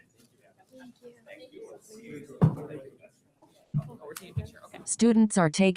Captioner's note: people chatter indistinctly